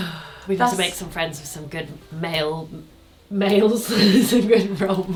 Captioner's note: laughs